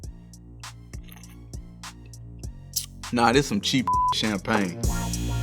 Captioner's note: slurps; beep; intense music